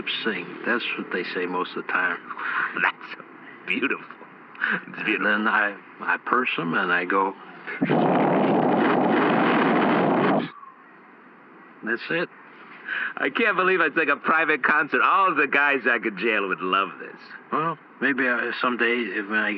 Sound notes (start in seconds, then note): 4.6 laughing; 7.7 blows into the recorder’s microphone loudly